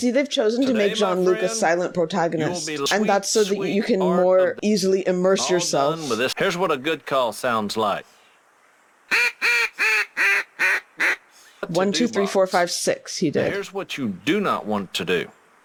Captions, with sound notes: - I see they've chosen to make John Luke a silent protagonist. And that's so that you can more easily immerse yourself. - Here's what a good call sounds like. [blowing duck call] 1, 2, 3, 4, 5, 6, he did. - Here's what you do not want to do.